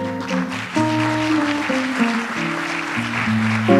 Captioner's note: audience applauds